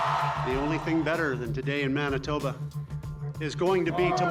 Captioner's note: applause